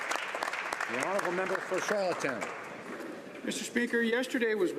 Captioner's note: some Applause